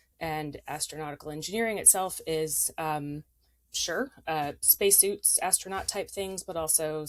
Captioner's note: none